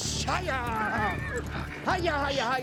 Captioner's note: makes shushing sound